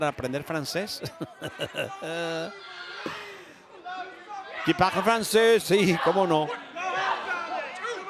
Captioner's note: laugh